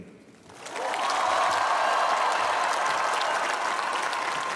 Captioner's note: cheering